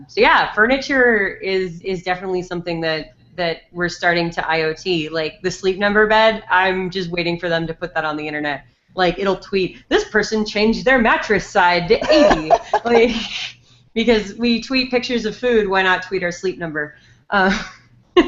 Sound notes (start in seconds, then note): 12.0 laughs; 18.0 giggles